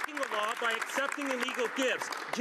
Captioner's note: some Applause